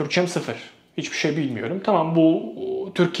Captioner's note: Turkish